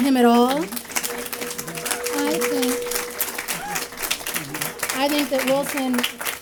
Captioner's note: applause